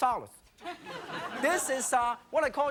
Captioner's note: audience laughing